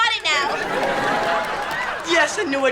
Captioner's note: audience laughter